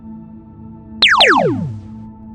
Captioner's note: zap